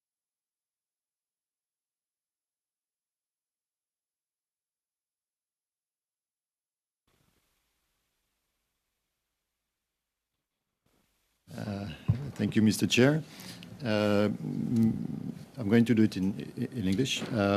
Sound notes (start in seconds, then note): 2.9 silence